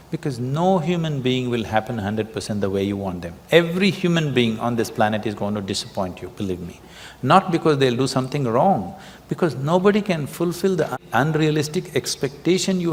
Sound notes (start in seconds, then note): none